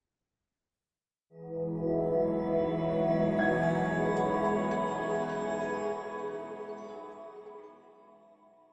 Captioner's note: swelling tone, bell strike